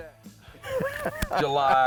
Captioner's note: laughing